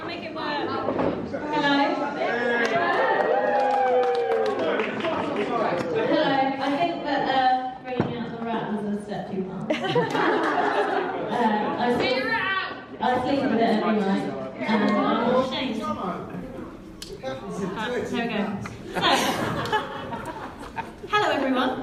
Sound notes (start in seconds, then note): 2.2 cheering and whooping